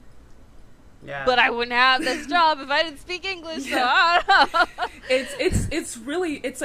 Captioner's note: laughs